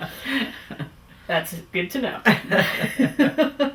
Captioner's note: laughs